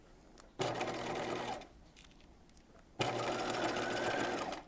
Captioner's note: sewing machine whirs